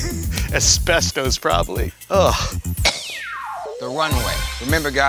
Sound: cough

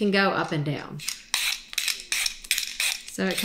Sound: potato scraping

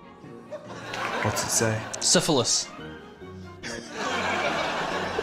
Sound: laughs

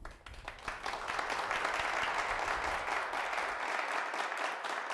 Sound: audience claps

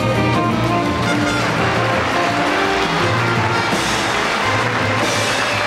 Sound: audience applauding

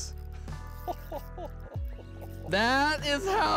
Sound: laughs

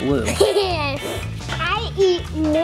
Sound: chuckles

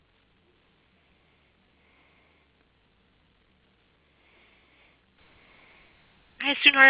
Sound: silence

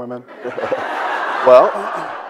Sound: audience laughs

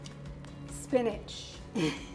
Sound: laughs

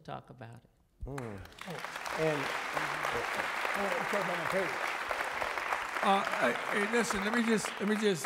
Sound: applause

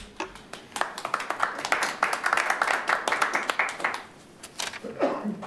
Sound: audience applauding

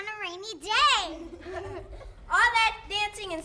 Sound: everyone laughs

